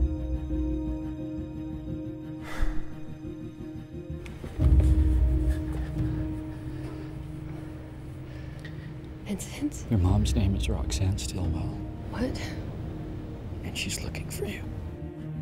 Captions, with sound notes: (sighs) - Vincent? - Your mom's name is Roxanne Stilwell. - What? - And she's looking for you.